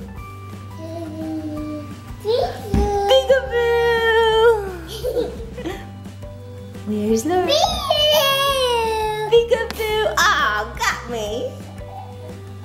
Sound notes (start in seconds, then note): 1.3 cooing